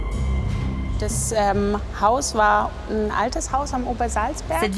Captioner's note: German spoken audio